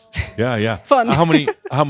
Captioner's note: she giggles